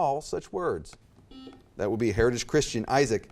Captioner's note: buzzer beeps